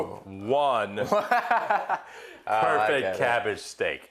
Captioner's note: laughing